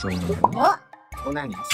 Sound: monkey heartbeat

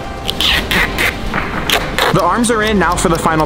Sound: tape squeaking

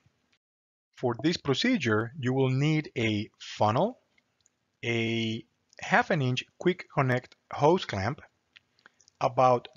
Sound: click

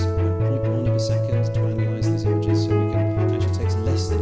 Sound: speaker's voice fades in

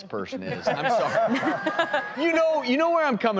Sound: laughter

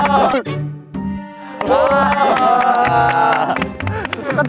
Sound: everyone is applauding as they got impressed

